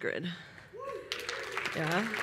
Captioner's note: applause